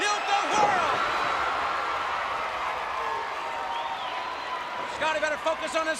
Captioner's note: crowd cheering